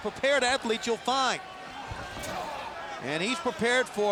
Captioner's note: fans cheering